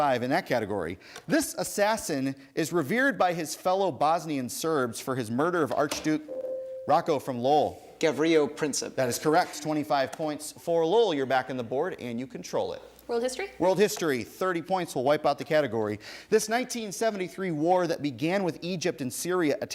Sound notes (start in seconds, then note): 6.2 ding